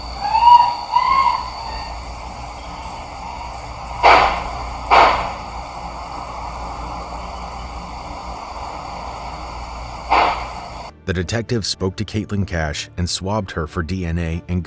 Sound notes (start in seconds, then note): 0.0 screaming; 4.0 gun shooting